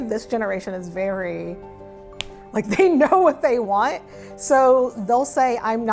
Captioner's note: fist smacks